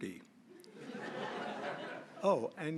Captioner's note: laughter